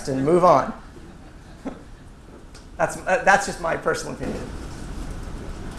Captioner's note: laugh